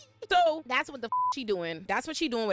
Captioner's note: beep